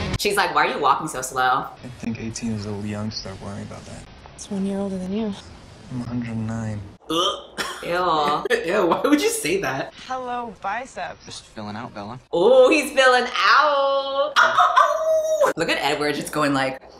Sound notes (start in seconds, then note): 7.1 vomiting sound; 14.4 howls